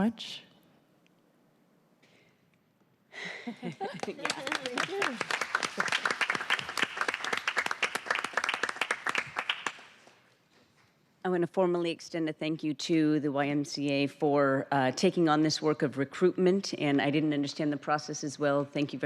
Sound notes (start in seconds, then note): 10.6 applause